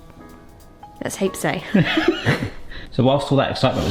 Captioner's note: both laugh